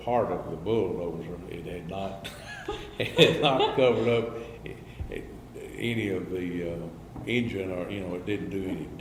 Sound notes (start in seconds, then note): 6.2 laughs